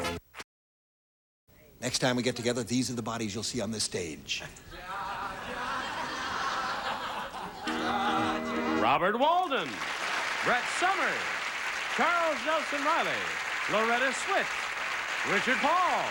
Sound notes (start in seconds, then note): 4.9 brett humming bridal chorus